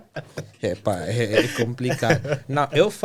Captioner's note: laughter